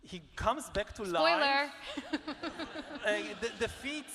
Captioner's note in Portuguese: laughs